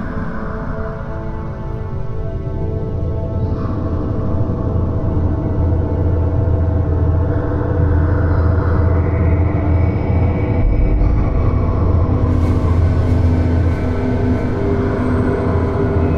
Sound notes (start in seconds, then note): 8.4 ominous hum continues